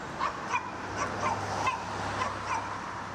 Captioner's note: dog barking